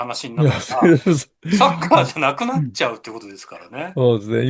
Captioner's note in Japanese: 笑い